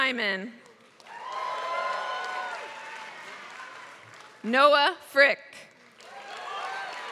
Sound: applause

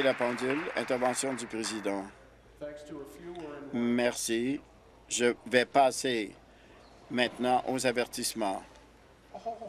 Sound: applause

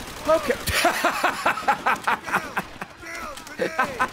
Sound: laughs

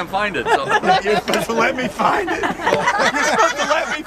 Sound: laughter

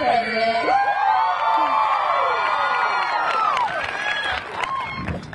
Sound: audience cheering

